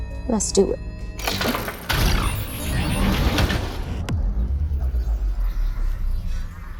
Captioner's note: engine and digital beeping sounds